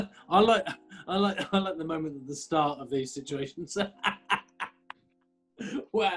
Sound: laughing

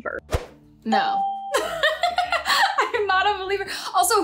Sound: laughs

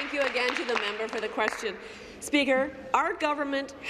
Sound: applause

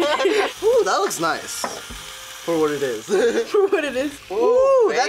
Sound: laughs

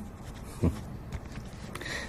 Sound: laughing

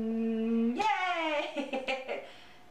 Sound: laughter

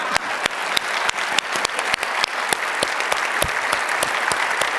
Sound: audience applauds

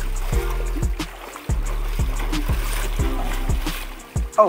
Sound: water splashing

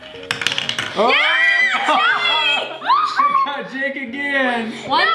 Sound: screaming

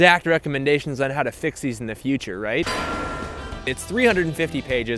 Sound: foreboding bell clang

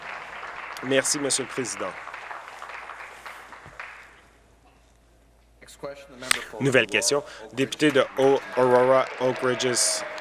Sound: applause

